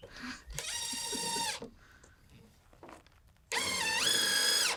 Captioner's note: drill whirring